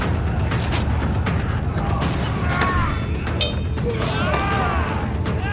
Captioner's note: battle cries and battle sounds